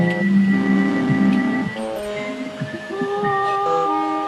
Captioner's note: horn sounds